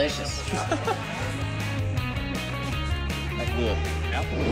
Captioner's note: laughing